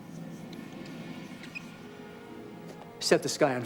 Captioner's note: water run